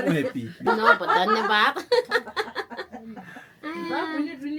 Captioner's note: laugh; speaking Nepali